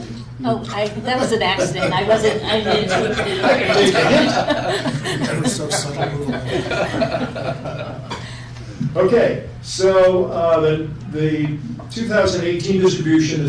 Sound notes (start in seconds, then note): 1.2 laughter